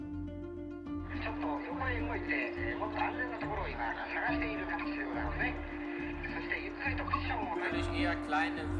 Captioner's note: radio reports in multiple languages